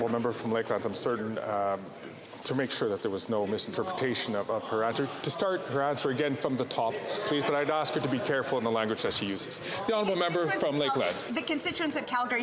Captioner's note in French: voix de l'interprète